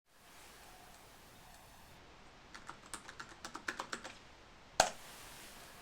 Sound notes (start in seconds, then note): 2.5 typing